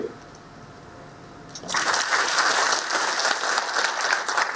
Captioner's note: applause